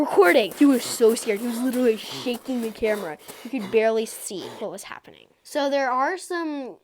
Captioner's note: sounds of running through grass and heavy breathing